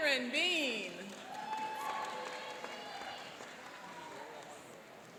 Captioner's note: cheering and applauding